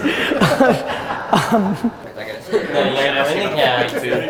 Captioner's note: group laughter